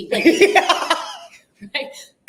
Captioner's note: laughing